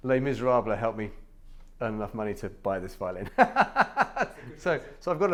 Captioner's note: laughs